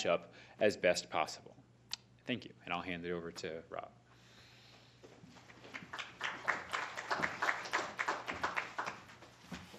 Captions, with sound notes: up as best possible. Thank you, and I'll hand it over to Rob. [APPLAUSE]